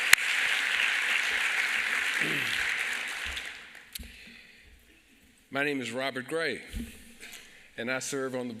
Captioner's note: applause